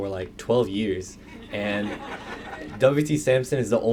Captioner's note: laughter